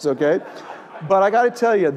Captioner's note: laugh